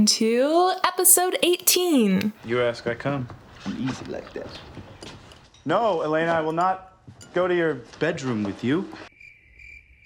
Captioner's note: crickets